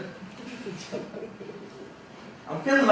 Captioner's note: audience members laughing